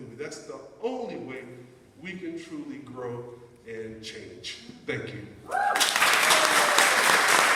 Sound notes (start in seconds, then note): 5.5 audience applauding